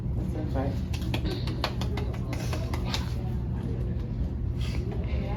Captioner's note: student clapping